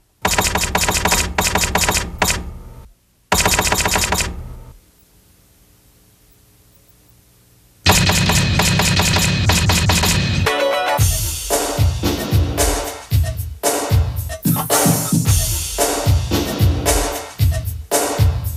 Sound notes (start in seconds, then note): 3.3 typing tone continues; 10.9 upbeat music